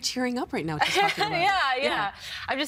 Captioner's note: laughing